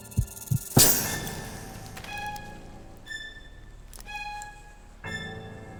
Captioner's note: snake rattling and hissing